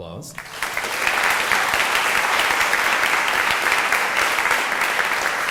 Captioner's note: audience applauding